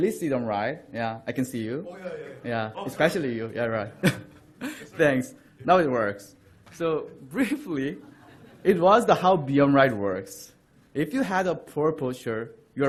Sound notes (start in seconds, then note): 2.3 voiceover; 3.9 laughter; 7.9 laughter